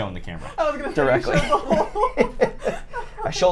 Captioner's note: laughter